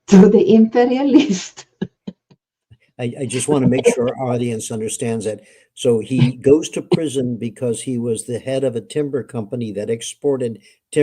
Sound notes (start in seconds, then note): 3.0 laughing